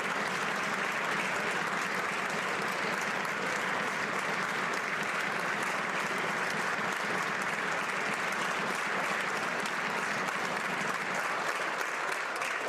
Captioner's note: applause